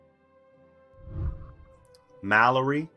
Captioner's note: whooshing